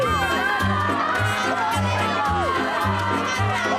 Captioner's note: cheering